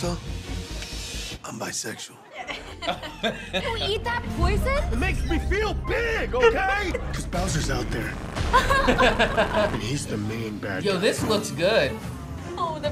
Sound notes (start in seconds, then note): 2.3 both laughs; 8.4 both laugh